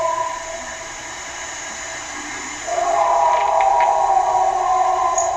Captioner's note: animal howling continues